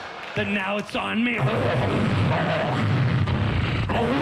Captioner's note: roaring